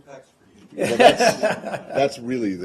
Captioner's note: laughter